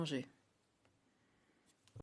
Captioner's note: speaking French